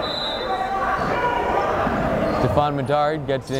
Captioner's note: whistle blowing